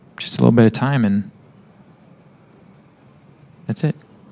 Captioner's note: long pause